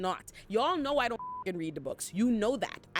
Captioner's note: beep